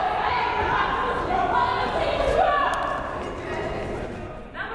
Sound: crowd chattering

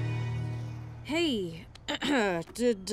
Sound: clears throat

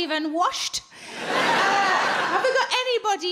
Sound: crowd laugh

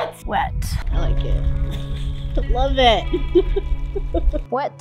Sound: laughs

